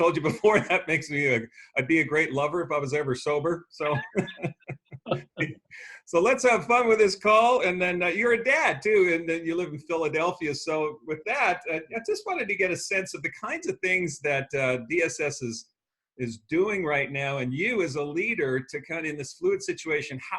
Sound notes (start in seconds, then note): 3.8 laughs